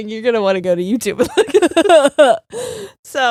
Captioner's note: both laughing